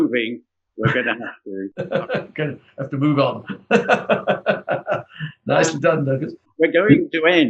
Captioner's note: laughs